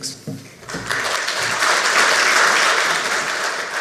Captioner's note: applause